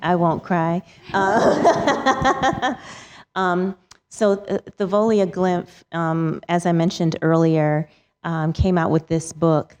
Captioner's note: laughs